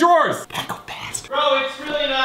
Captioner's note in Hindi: धीरे से